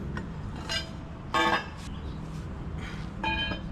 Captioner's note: clanking